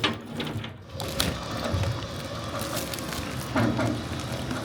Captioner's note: machine whirring